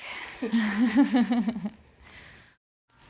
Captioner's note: laughter